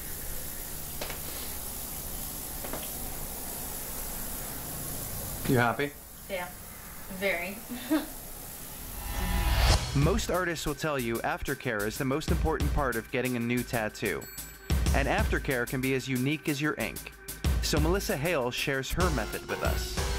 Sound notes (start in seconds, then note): 7.6 giggle